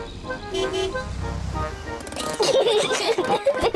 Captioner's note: honks horn; peppa and george giggle